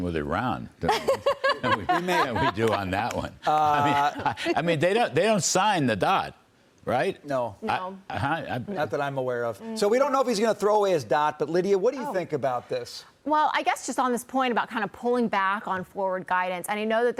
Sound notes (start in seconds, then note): 3.7 laughter